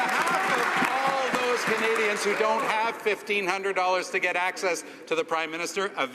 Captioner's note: some cheering and applause